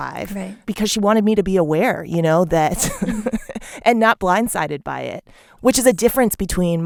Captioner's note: laughter